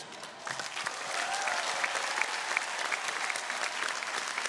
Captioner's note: audience cheering